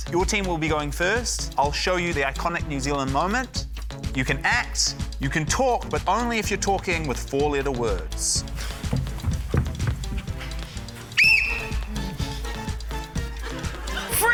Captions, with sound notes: - Your team will be going first. I'll show you the iconic New Zealand moment. You can act, you can talk, but only if you're talking with four-letter words. (BLOWS WHISTLE)